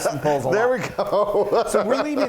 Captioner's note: laughing loudly